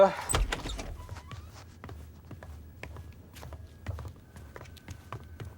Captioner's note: footsteps thudding